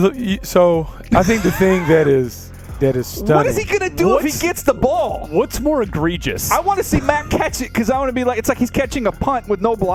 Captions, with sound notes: [LAUGHS] I WANT TO SEE HIM CATCH IT IT'S LIKE CATCHING A BLOCK WITH NO BLOCKERS WHAT HE SUPPOSED DO